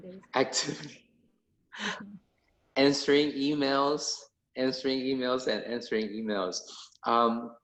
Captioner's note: laughs